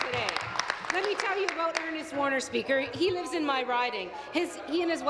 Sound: applause

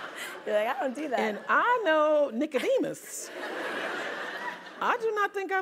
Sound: laugh

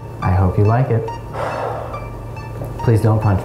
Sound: sighing

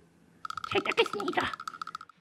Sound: shuddering

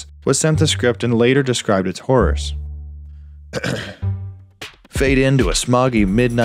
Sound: clear throat

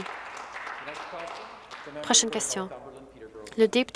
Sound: some Applause

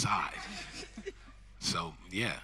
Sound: audience laughing

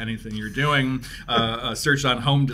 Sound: laughs

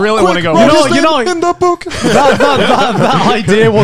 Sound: everyone laughs

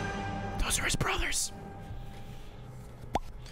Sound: whispers

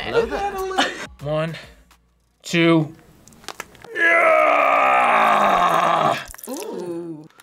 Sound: grunts

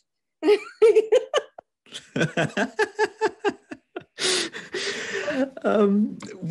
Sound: laughs

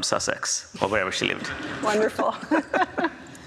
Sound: both laugh

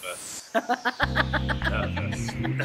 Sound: laughing

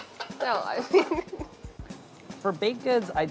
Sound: laughs

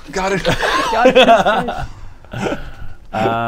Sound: cheesy laughter

